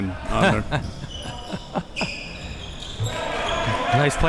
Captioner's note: laughs